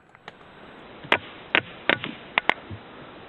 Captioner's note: tap tap tap